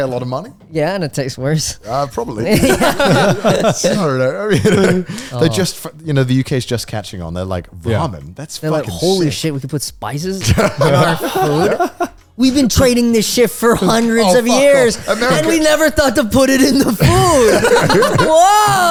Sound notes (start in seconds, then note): 2.4 all laughing